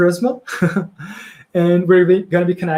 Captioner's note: laughs